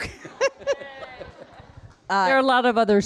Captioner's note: people laughing